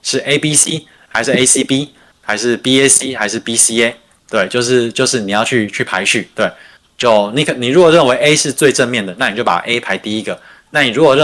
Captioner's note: non-english speech